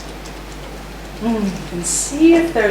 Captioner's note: tapping